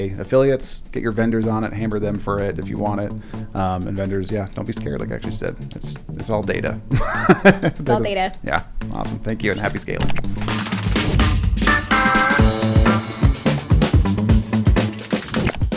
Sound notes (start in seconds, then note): 6.9 laugh; 12.1 upbeat music